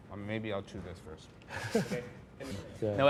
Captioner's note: chuckles